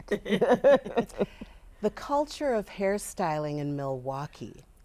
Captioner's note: all laughing